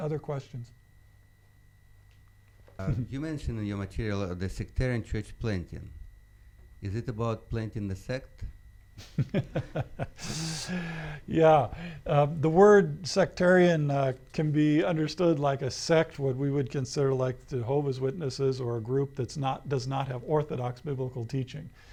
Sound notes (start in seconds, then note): 9.0 laughs